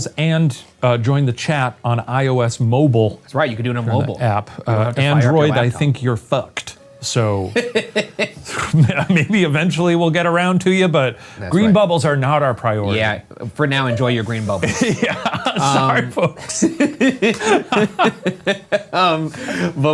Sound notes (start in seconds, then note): 7.4 laughs; 17.3 laugh